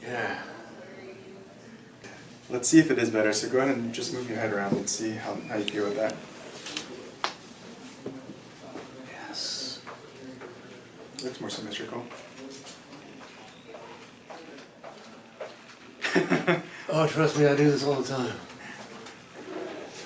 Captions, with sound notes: yeah... - Let's see if it is better, so go ahead and just move your head around. Let's see how you do with that. Yes. Looks more symmetrical. (laughs) - Oh, trust me, I do this all the time.